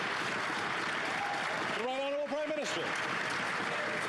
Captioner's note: applause